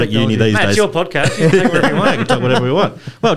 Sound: laughter

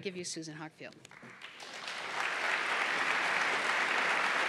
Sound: applause

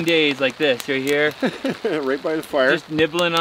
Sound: laughs

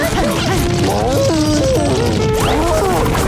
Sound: panting; mooing

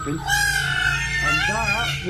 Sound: peacocks squawking

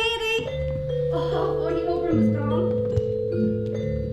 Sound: magical sounds play with soft gongs

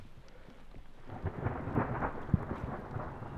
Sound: thunder

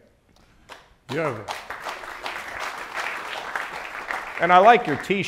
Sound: audience applauding

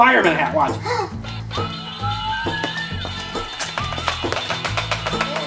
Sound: hat siren wails

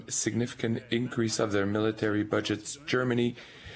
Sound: speaking French

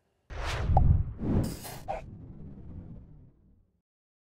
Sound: logo wooshing

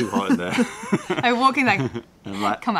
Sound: laughter

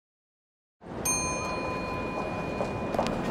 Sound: sound - lift ring

